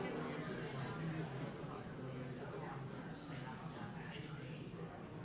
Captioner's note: background chatter